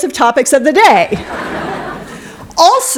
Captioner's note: laughter